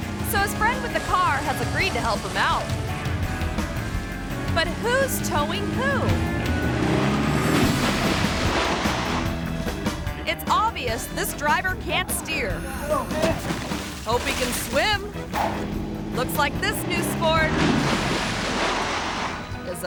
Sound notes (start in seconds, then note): 2.8 upbeat music; 5.9 car engine revving; 5.9 upbeat music; 7.6 water splashes; 8.8 upbeat music; 12.2 groans; 15.1 graphics whooshing; 17.5 water splashing